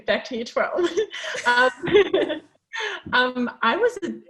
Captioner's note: laughing